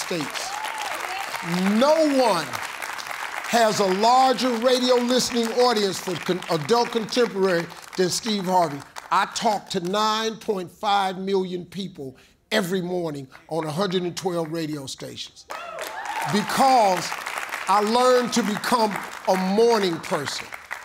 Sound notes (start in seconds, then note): 0.3 audience claps; 15.5 audience cheers